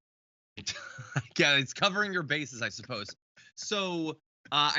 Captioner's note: laugh